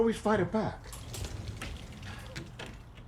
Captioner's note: closet door opens